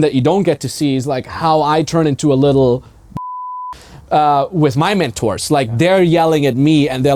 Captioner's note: beeping